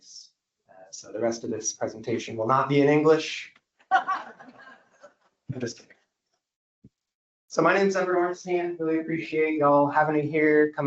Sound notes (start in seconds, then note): 3.9 audience laughs